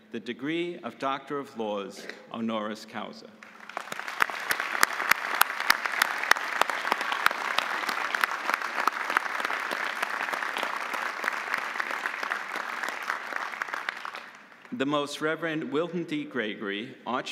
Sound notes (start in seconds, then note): 4.0 audience applauding